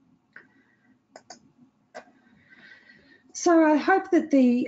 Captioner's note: mouse clicking